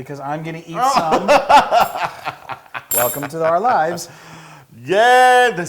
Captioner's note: laugh